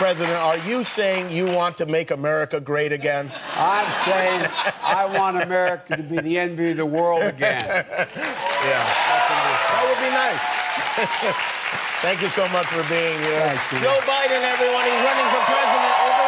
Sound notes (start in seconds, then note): 12.9 cheers and applause